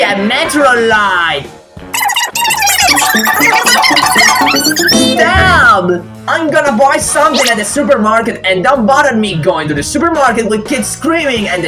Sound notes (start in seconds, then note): 1.9 everyone talking sped-up